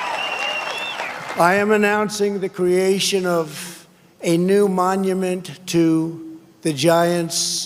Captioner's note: cheers and applause